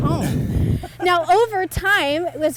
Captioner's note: laughs